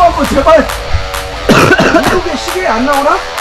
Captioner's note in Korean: 기침